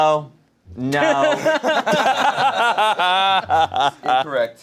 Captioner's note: laugh